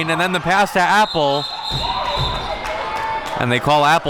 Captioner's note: whistle blowing